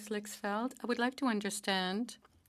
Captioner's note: speaking French